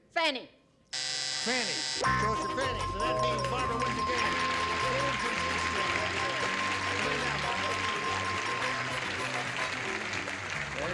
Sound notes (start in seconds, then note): 4.5 applause; 4.5 bell